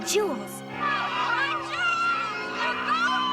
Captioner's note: people screaming